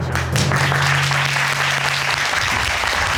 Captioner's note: all applauding